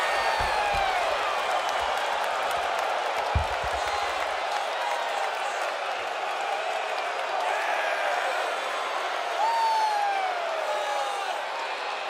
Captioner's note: crowd cheering